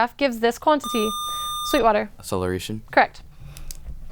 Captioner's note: buzzer